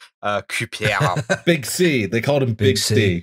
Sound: laughter

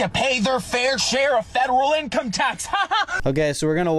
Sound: laughing

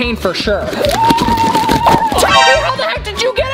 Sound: shrieks

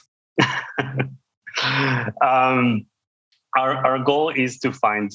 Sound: laughs

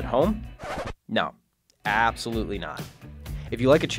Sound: record scratching

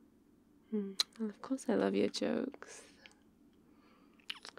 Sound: kiss; kiss

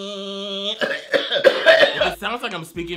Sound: coughing

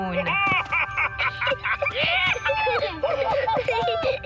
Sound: excited laughter

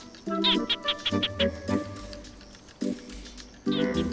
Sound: gecko chirping

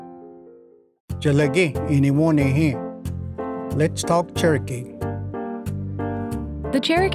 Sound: language segment music begins; speaks in Cherokee

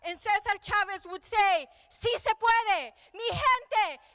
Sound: speaking in foreign language

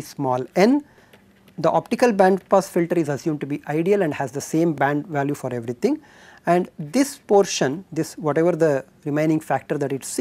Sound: amplifier noise

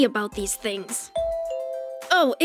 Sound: doorbell rings

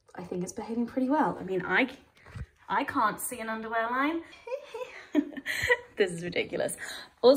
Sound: giggles

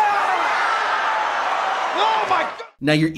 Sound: group groaning

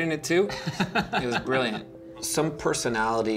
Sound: laughing

